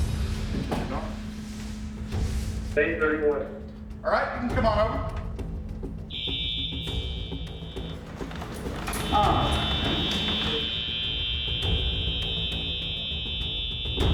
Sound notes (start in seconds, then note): 6.1 buzzing alarm